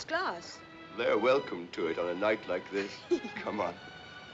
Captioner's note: Risos